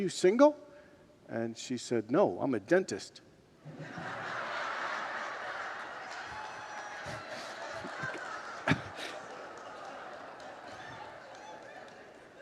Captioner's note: congregants laugh